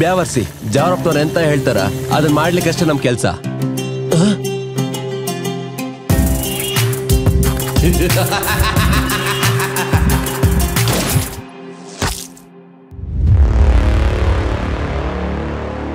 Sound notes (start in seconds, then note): 7.8 intense laughing; 10.8 gun shot